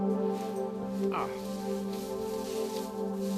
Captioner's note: instrumental music; grunts